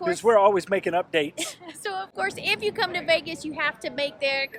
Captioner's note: laughs